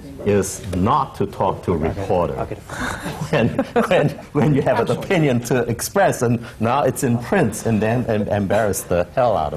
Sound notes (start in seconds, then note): 2.7 laughs